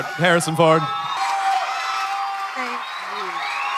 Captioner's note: audience cheering